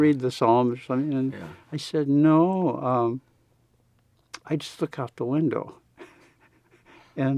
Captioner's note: laughs